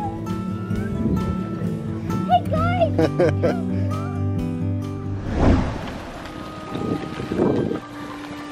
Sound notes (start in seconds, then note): 3.0 laughs